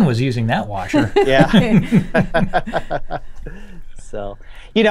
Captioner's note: laughter